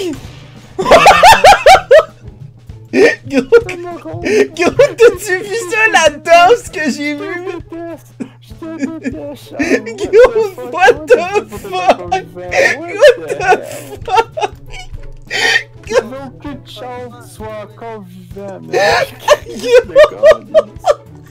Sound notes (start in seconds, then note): 12.4 laughs